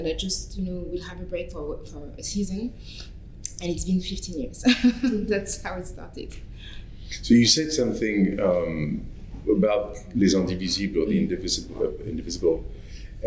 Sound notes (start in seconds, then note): 4.6 chuckles